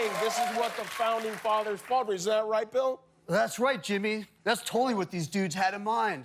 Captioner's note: cheers and applause